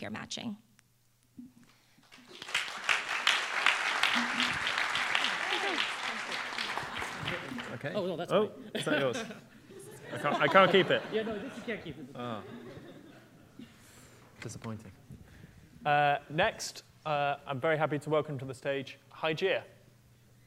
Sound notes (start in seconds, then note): 2.0 applause; 8.7 laughter